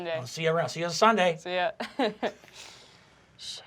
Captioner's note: laughs